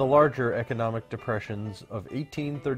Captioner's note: Arabic